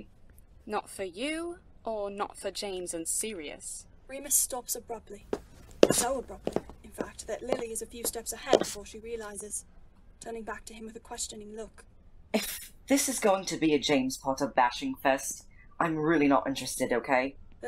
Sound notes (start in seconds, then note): 5.2 footsteps